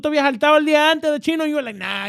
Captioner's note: speaking In Foreign Language